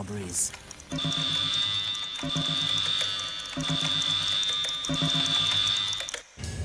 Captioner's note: alarm sound; upbeat music